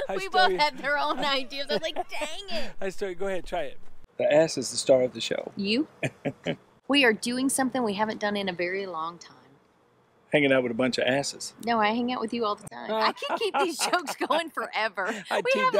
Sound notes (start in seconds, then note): 6.0 man chuckles